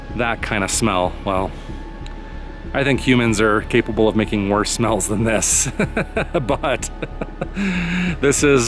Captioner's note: laughs